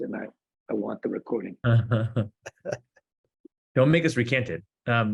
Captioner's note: laughs